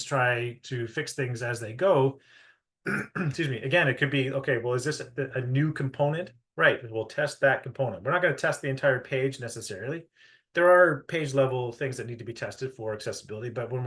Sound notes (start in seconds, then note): 2.8 clears throat